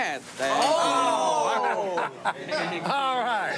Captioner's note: laughs